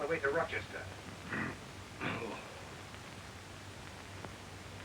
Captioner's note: clears throat